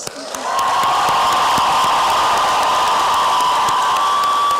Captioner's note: applause and cheering